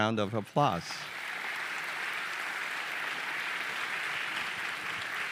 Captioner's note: audience applauding